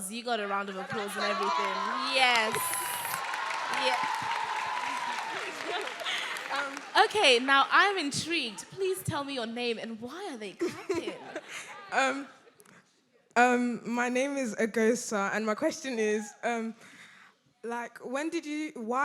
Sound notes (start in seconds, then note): 3.2 audience applauding; 3.2 audience cheering